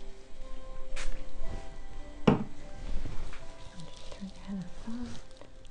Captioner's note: spray bottle spritzing